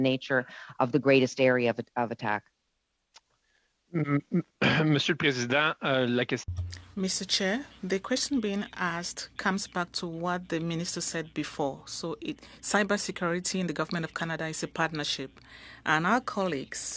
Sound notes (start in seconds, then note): 8.0 speaking French